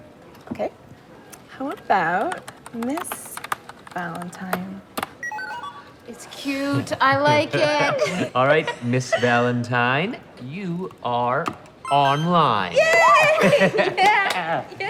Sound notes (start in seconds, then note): 5.2 computer beeps; 12.9 cheering